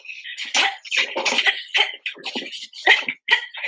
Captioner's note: grunting